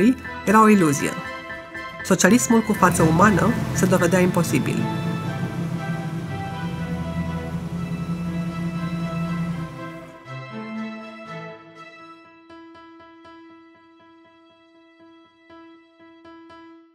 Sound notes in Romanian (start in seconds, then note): 4.3 motor mașină